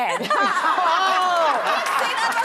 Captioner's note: audience laughs